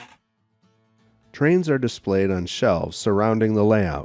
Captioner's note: voiceover